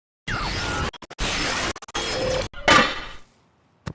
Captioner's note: digital scratching